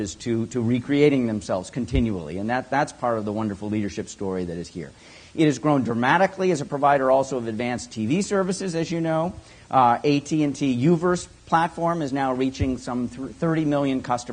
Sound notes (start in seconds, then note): none